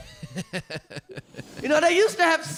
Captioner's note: laughing